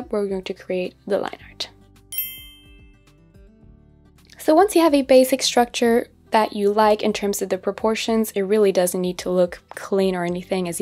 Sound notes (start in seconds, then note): 2.1 ding rings